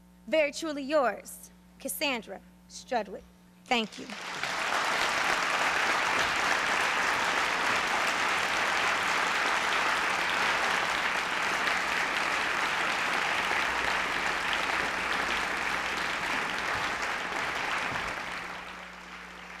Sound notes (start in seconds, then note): 4.6 applause